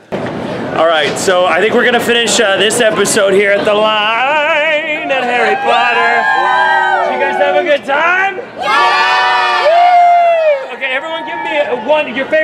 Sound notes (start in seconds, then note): 8.6 cheers